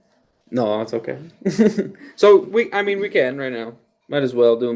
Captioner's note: laughs